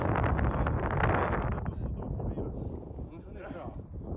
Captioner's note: wind sound